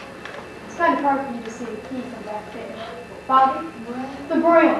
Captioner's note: student speaks softly